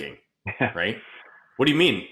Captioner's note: laughing